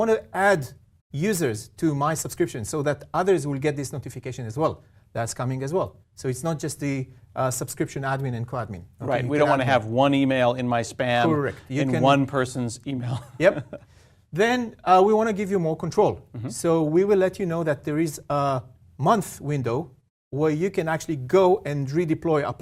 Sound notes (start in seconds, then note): 13.0 laugh